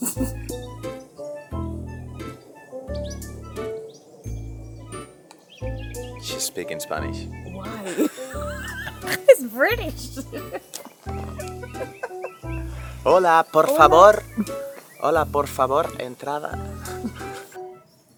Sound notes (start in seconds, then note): 13.0 in spanish